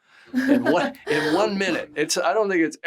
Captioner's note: Greta chuckles